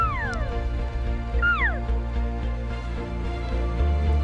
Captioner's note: calling sounds; upbeat music